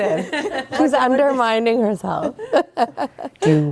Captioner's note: laughing; laughing